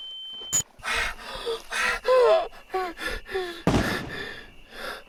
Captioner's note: Keith hyperventilating; distant gunshots